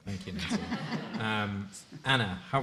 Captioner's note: light laughter